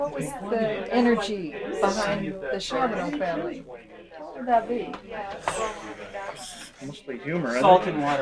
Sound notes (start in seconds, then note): 6.1 sighs